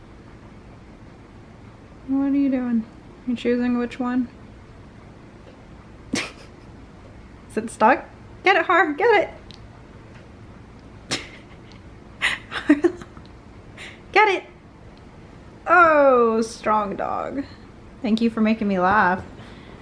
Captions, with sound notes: What are you doing? You choosing which one? Is it stuck? Get it Har, get it. *laughs* Harlow Get it. Oh Strong dog. Thank you for making me laugh